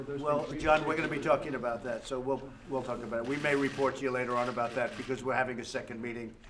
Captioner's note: applause